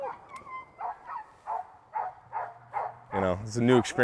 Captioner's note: dogs barking